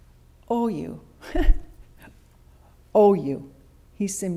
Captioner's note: laughs